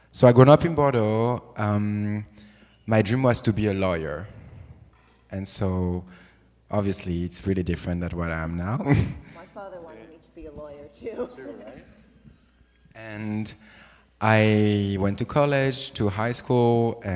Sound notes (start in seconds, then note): 8.8 chuckles